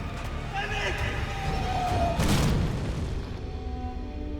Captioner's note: explosion roars